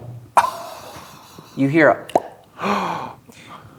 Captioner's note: pops; gasps